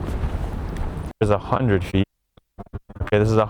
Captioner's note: audio pops